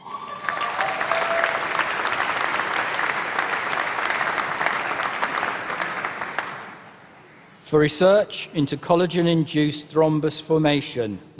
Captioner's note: applause